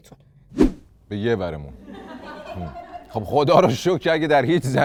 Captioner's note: laughter